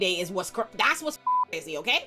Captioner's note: beep